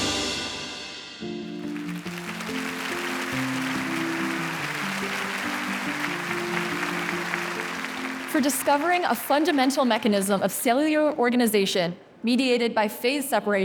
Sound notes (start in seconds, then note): 3.6 audience applauding